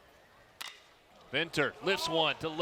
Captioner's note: ball hitting bat